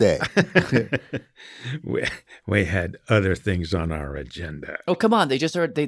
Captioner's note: laughs